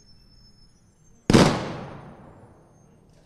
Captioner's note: gunshot